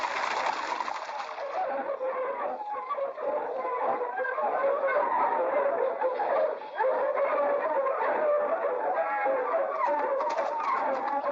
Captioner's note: hooves clattering; dogs barking; hooves clattering; dogs barking